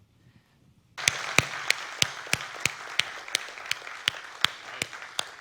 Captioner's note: audience applauding